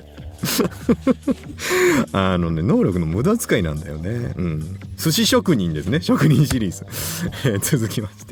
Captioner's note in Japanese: 笑い